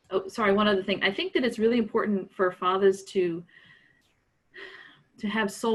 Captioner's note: sighs